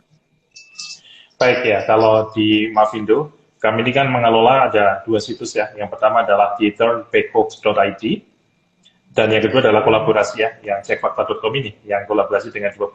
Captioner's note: non-english speech